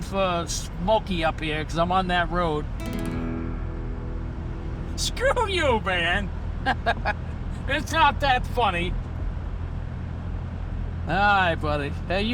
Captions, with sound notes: for smokey up here 'cause I'm on that road. (guitar strum) Screw you, man! (laughs) It's not that funny. All right, buddy.